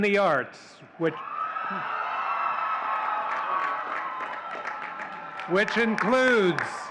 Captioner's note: audience cheering and clapping